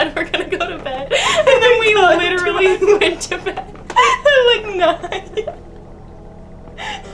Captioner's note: laughing